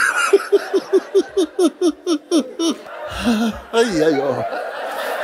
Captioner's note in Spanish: Mooji se ríe